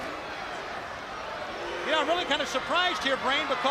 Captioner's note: crowd chatter